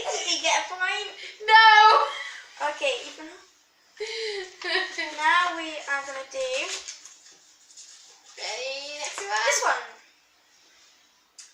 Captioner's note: laughs